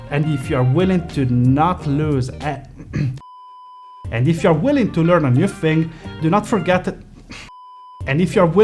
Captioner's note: bip; bip